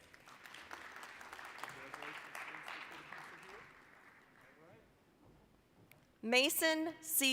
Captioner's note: applause